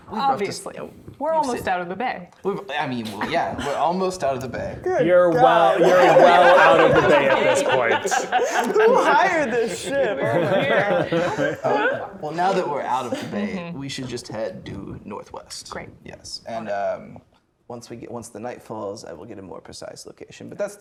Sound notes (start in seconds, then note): 8.0 players laughing; 11.0 players laughing